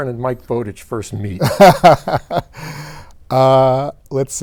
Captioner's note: laughs